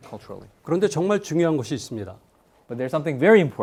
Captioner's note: speaking in Korean